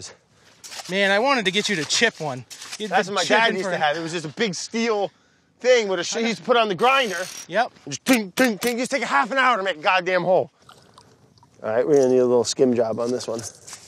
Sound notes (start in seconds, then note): 6.8 grinding sound; 6.9 metal clanging